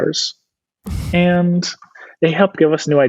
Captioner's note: laughs